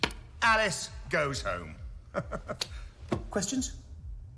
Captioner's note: laughs